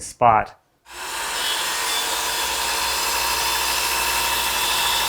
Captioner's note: equipment whirring